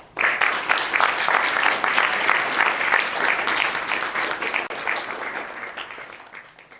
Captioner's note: applause